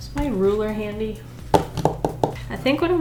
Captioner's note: tapping